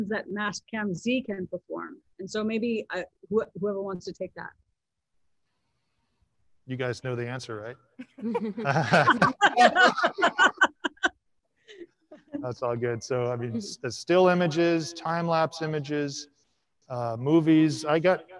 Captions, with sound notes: that Mastcam-Z can perform? And so maybe whoever wants to take that - You guys know the answer, right? (panelists laughing) That's all good. So, I mean, it's still images. Time-lapse images, movies.